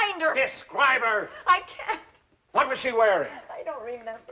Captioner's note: crying